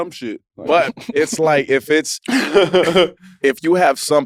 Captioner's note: laugh